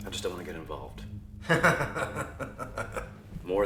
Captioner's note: Kester laughing